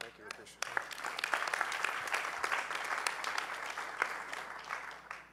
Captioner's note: audience applauding